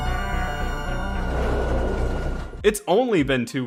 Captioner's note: train tracks rattling